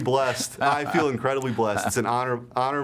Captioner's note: laughter